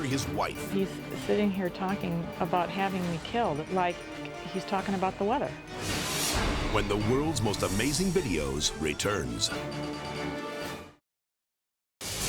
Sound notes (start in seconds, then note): 5.8 dramatic whoosh; 8.9 lively music